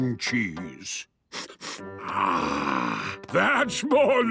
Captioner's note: sniffs